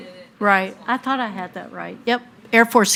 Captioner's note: speaking faintly